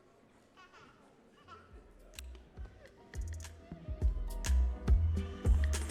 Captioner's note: audience cheering and clapping